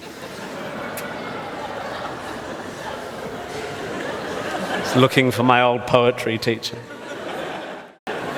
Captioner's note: audience laughs